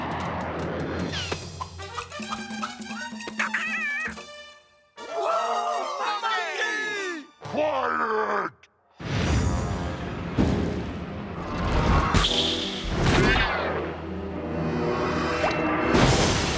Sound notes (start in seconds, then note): 0.0 adventurous music; 5.0 everybody cheering; 9.0 dramatic music